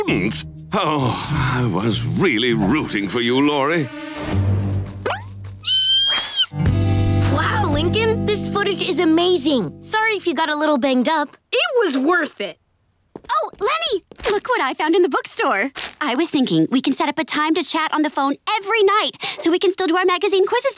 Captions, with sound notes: [groaning] I was really rooting for you, Lori. [squealing] Wow Lincoln, this footage is amazing. Sorry if you got a little banged up. It was worth it! Oh, Leni! Look what I found in the book store. I was thinking, we can set up a time to chat on the phone every night; so we can still do our magazine quizzes together.